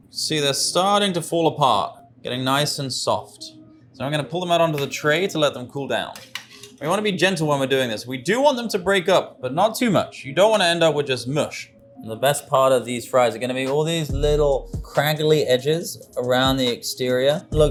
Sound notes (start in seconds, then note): 6.3 metal clangs